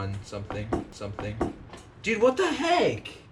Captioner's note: knock